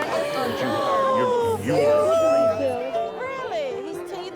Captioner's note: gasping